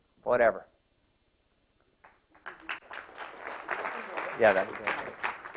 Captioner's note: applause